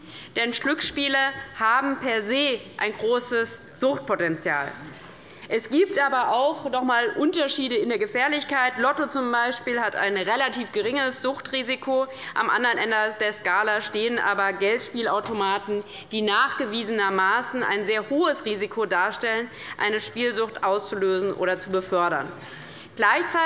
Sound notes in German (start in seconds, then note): none